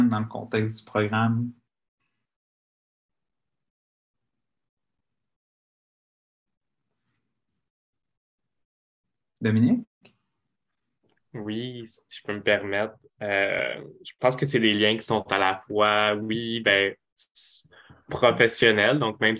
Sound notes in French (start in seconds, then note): 2.8 silence